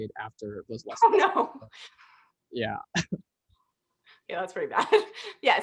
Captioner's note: laughter; laughter